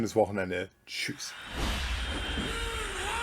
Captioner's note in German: schreien